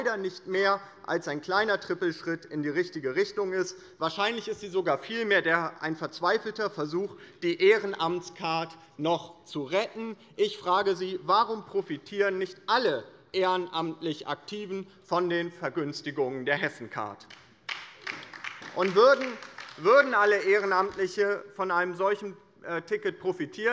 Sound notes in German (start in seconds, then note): 17.6 Beifall bei der LINKEN